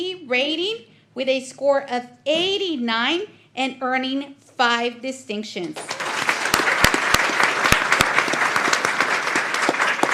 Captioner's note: applause